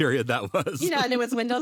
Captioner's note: both laughing